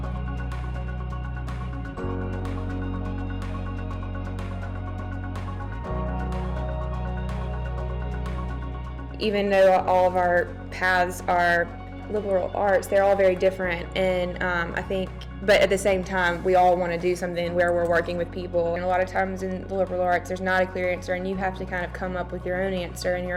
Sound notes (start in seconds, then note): 0.3 electronic music; 9.4 voiceover